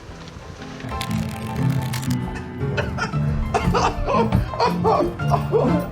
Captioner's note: background people chattering; melodic piano music; laughing